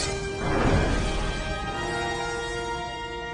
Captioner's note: explosion